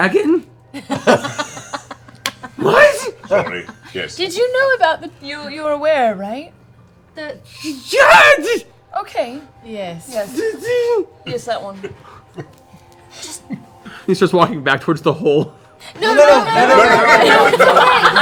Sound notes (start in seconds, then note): 7.0 terrified noise